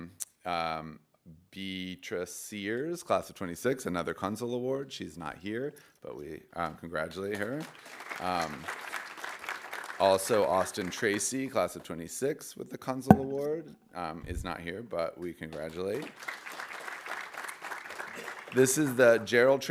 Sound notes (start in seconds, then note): 7.6 audience applauding; 16.0 audience applauding